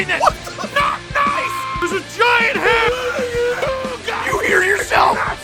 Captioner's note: screaming; Harry potter screaming